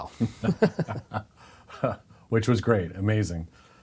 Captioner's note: laughing